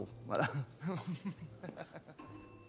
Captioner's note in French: rire